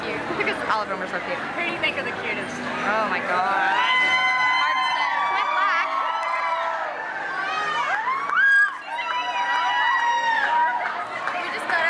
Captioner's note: crowd woo hoos